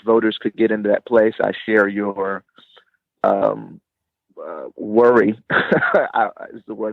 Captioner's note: chuckling